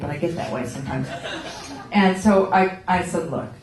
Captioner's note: laughter